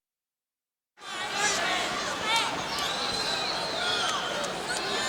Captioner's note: audience shouting